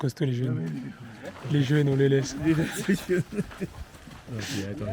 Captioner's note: laughter